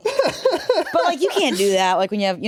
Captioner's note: laughs